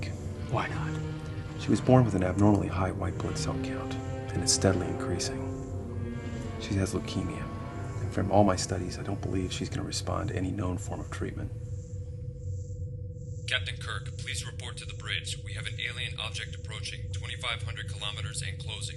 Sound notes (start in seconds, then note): 12.4 spock over intercom